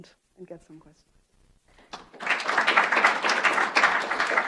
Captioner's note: applause